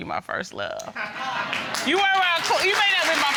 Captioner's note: audience applauding